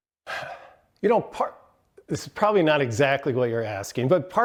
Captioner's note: sighs